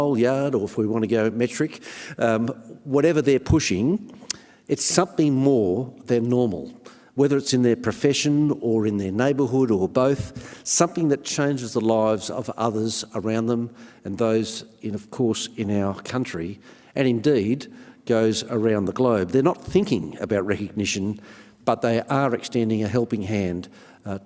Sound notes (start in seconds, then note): none